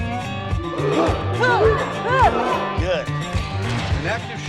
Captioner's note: huhh. Huhh. Huhh